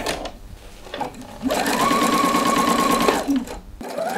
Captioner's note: sewing machine chatter